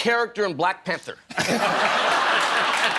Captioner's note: laughter